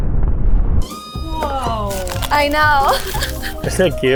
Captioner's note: chuckles